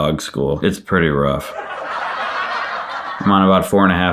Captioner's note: audience laughing